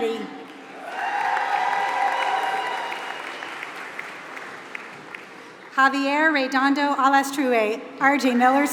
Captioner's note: applause